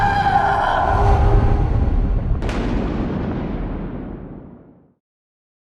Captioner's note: thunder